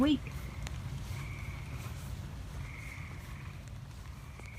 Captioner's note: frog sounds continue and then fade out